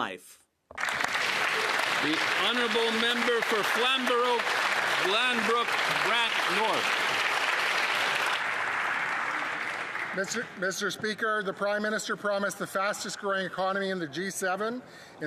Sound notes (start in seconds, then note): 5.5 some Applause